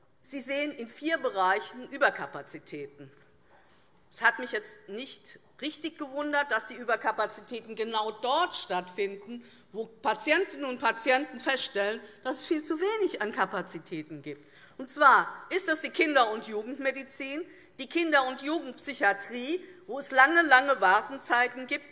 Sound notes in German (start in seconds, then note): none